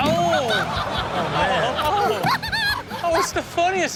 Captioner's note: all laugh